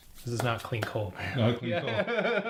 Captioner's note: Gülme